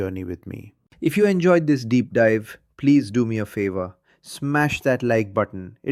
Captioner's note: excited